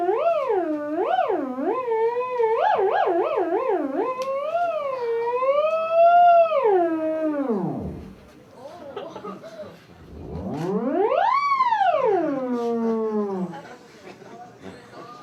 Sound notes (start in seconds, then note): 7.2 boom - theremin sounds end; 8.7 laughter